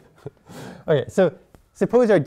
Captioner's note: laughter